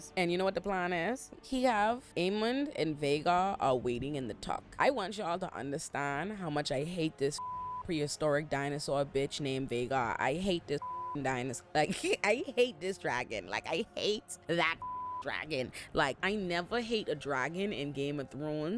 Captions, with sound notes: And you know what the plan is? He have Aemond and Vhagar are waiting in the tuck. I want y'all to understand how much I hate this (beep) prehistoric dinosaur bitch named Vhagar. I hate this (beep) dinosaur. Like, I hate this dragon. Like, I hate that (beep) dragon. Like, I never hate a dragon in Game of Thrones